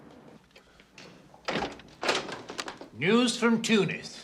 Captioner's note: door opens